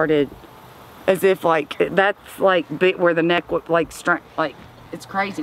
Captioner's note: stammers